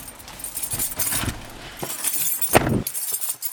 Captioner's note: keys jangle